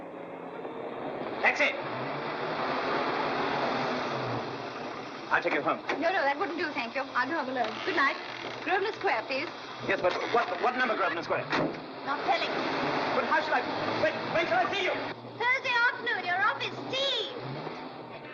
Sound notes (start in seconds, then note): 2.4 car engine rumbling; 10.0 car door shuts; 12.5 car rumbles away